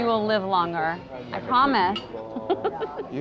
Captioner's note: laughs